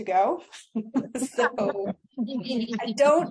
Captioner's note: laughter